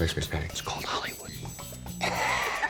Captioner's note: whispering; laughter